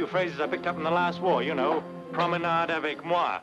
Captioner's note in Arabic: يتحدث باللغة الأجنبية